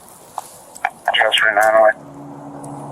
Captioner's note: radio chatter